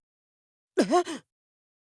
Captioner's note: gasp